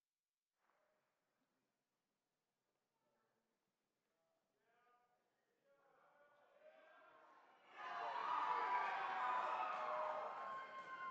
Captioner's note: applause